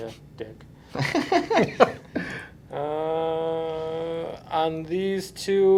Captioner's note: laughing